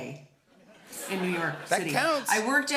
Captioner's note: laughter